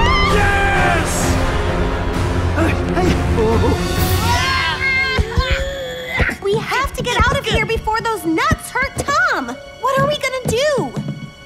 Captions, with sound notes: Yes! [all grunting] We have to get out of here before those nuts hurt Tom! What are we gonna do?